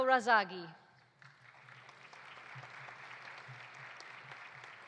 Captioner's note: audience applauding